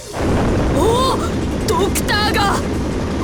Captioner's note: impressed hum